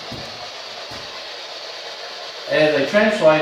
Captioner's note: white Noise